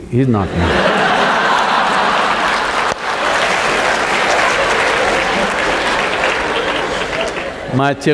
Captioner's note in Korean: 박수와 웃음